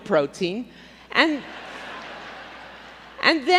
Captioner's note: laughter